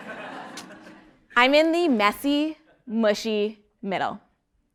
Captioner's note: laugh